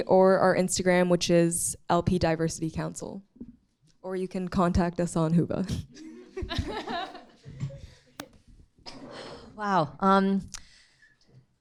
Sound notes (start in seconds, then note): 6.2 light laughter